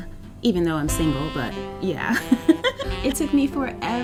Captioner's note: giggles